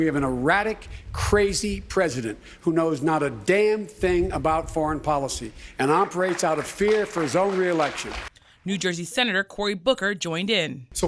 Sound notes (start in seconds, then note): 7.8 applause